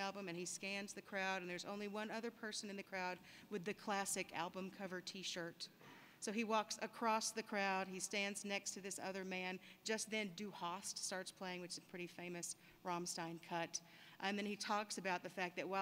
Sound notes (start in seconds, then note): none